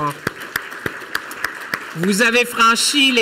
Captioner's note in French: Applaudissements